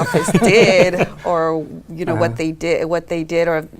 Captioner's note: laughing